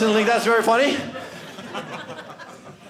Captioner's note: audience laughing